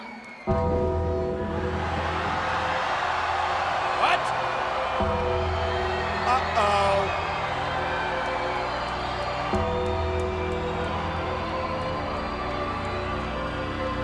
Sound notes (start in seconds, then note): 0.9 crowd cheering; 0.9 dramatic music; 8.5 crowd cheering; 8.5 dramatic music continues